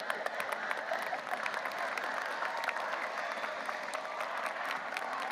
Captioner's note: audience applauding